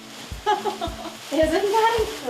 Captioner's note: laughing